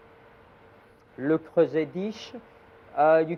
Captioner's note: speaks in foreing</b> <b>language